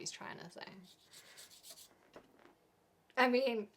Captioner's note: scratching